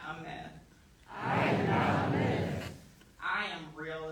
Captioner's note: crowd